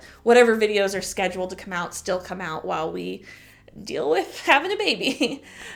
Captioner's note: chuckle